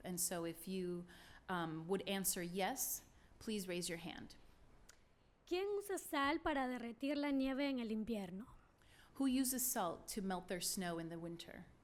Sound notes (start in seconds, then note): 5.2 speaking spanish